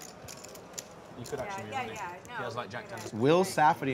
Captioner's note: players chatting